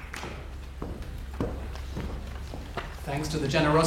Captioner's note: footsteps tap